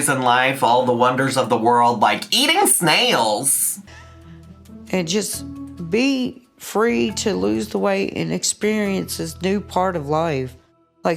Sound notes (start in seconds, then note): none